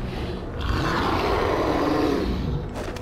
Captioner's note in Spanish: Rugidos